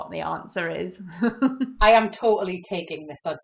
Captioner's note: laughs